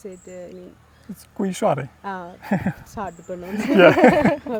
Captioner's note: ha, ha